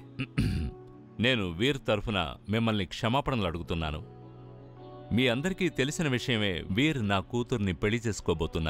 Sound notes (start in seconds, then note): 0.2 clears throat